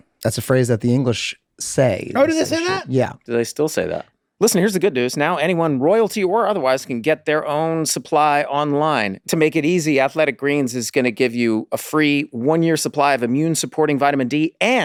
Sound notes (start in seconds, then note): none